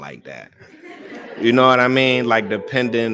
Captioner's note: laughter